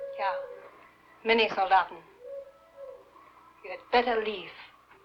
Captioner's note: speaking in a foreign language